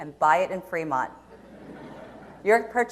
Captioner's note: audience laughs